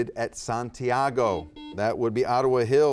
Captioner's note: buzzer beeping